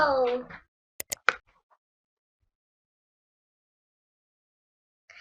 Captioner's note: mouse clicking